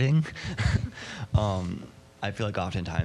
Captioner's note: laughing